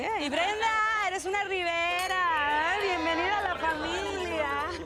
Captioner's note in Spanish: Chocan las copas